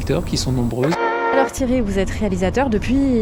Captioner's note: radio noise